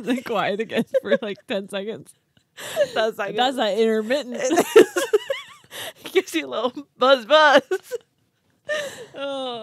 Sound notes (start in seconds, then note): 4.6 group laughs